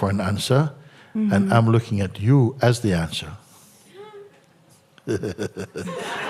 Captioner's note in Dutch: gelach